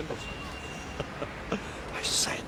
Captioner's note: chuckling